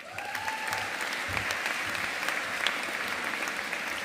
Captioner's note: audience applauding